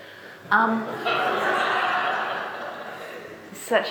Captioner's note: audience laughing